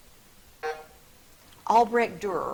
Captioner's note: buzzer drones